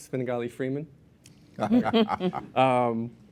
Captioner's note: laughter